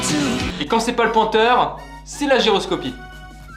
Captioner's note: none